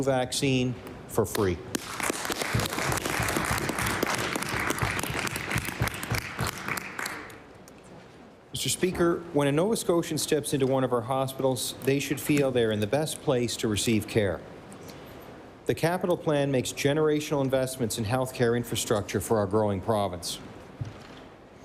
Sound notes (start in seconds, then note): 4.2 applause